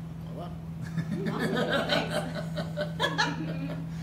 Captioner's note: laughter